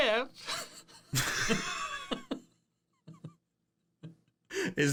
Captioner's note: laughing